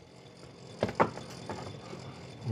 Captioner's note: quiet rattling